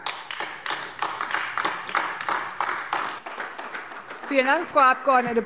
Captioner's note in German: Beifall AfD